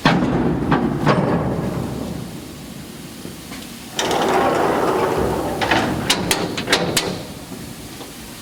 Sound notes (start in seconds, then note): 3.3 elevator doors clank open